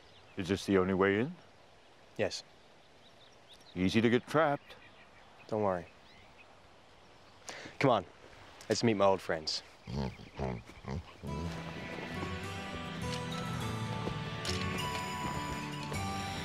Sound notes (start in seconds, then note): 9.9 Elvar grunts; 11.2 gentle music